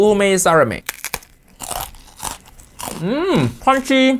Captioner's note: senbei crunching